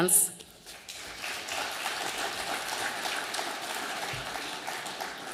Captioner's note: audience applauding